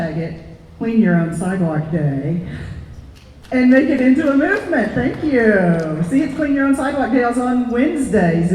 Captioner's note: applause